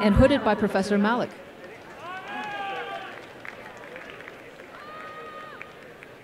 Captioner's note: applause